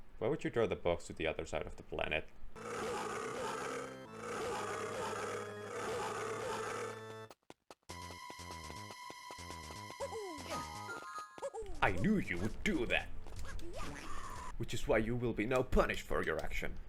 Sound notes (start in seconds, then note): 2.6 Donkey Kong roars